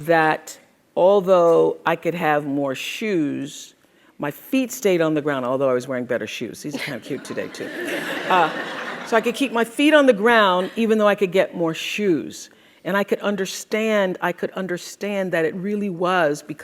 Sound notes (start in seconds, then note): 8.6 crowd laughs